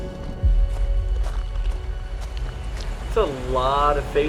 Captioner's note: footsteps crunching